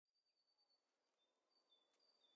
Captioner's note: bird song